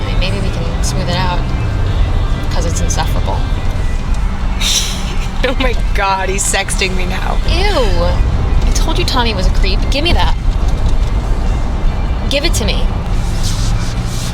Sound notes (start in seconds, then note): 4.6 laughs